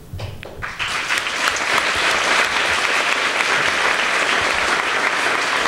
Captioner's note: applause